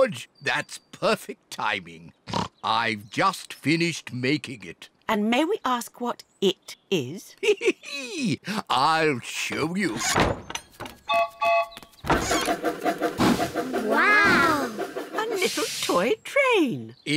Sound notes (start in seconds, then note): 2.2 snorts; 7.3 chuckles; 11.1 train whistle toots